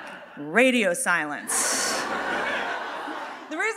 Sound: audience laughing

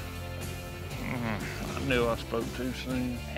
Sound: groans

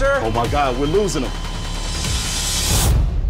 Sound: flat line

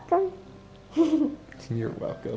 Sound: giggles

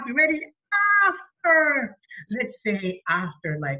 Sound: happily

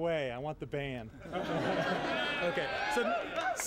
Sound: laughter

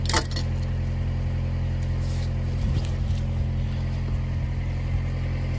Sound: tool clanging on the posts

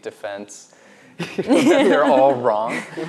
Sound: laughs

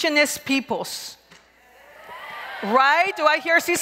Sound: crowd cheers

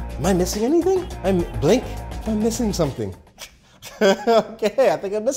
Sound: laughing

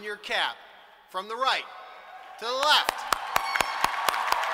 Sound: applause

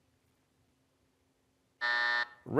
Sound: buzzer

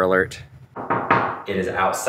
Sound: knocks

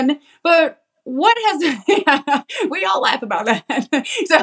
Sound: laugh

